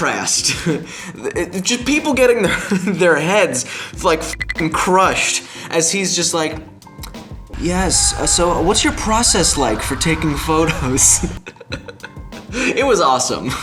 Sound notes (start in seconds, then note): 7.5 fire burning sound effect. people screaming in pain